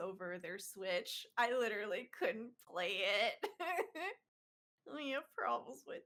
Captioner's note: laughs